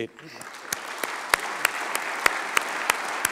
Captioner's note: applause